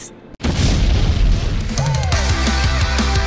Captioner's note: bang; upbeat music